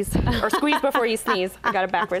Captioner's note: presenter laughs